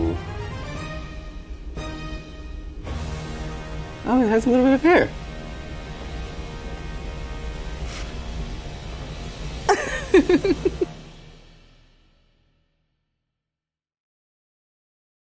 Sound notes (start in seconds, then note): 0.0 triumphant music; 9.7 laughing